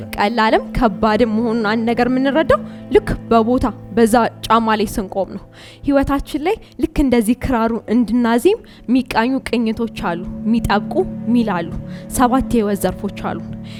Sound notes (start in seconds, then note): none